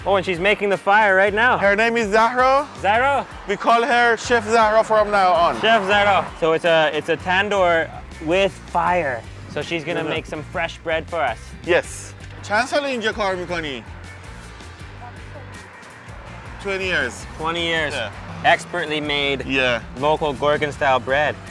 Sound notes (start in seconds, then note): 12.5 speaking foreign language